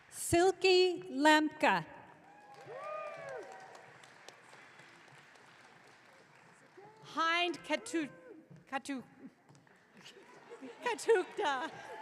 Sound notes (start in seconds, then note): 2.3 audience cheering; 7.3 speaks gibberish